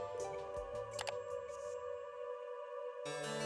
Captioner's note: mouse clicking sound